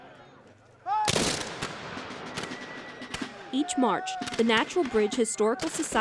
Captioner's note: gunshots